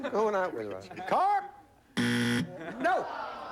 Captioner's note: buzzer